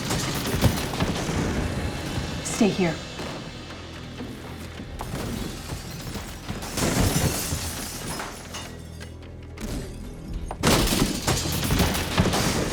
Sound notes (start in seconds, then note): 0.1 crashing; 5.1 glass shattering